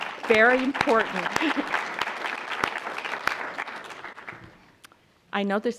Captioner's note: applause